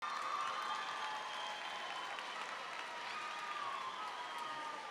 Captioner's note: audience clapping and cheering